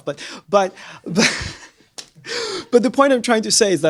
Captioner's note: laughter